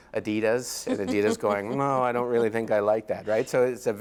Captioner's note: laughs